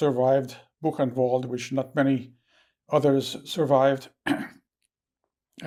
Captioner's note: clears throat